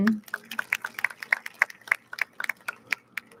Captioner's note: audience claps